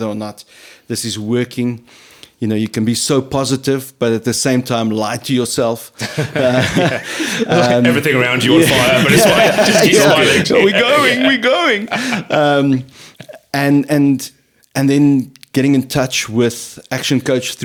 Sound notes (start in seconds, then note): 6.7 laughing